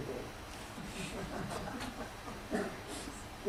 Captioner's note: laughter